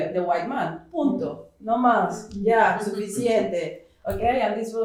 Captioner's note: speaking portuguese